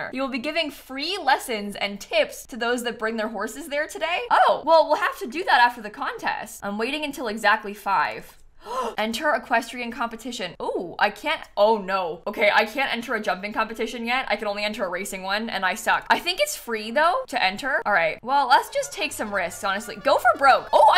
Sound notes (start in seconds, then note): 8.6 gasps